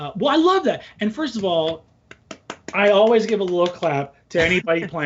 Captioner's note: applauds